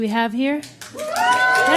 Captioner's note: applause, cheers